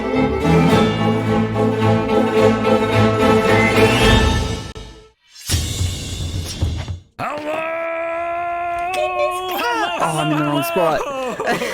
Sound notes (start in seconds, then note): 0.0 music builds in excitement to a peak; 5.3 slashing metal sound; 8.4 excited squeaks